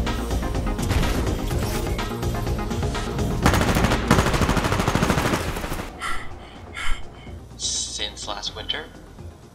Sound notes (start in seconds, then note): 6.0 panting